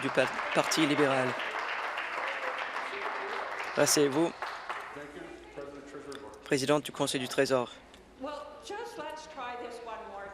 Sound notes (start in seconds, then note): 2.3 applause